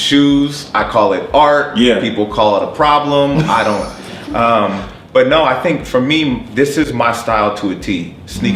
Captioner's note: laughs